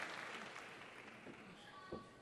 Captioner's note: applause